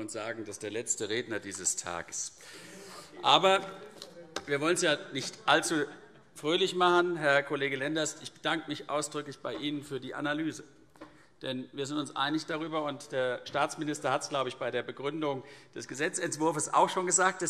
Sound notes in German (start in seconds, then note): none